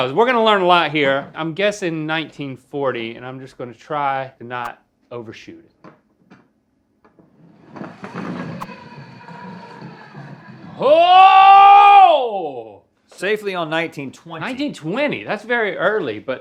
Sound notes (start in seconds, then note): 7.1 puck sliding; 10.8 Link cheering